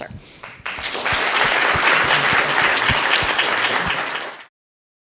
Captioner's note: audience applauds